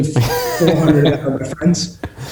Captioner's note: laughing